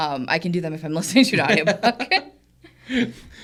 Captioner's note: co-hosts laughing; laughs